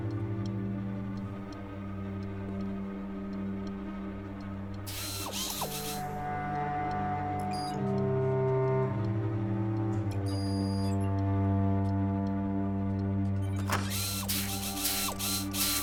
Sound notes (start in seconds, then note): 4.8 whirring; 7.2 electronic beeping; 13.6 whirring